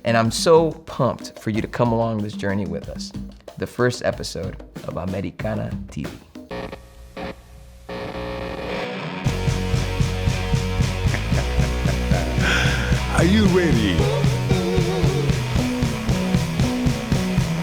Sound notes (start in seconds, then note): 6.7 electricity crackles; 9.2 upbeat music